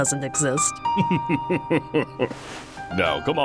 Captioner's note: chuckling